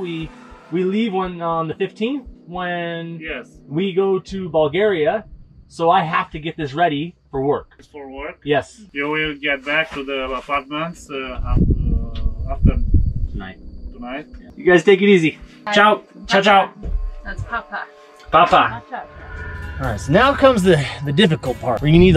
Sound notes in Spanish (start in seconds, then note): 17.7 idioma extranjero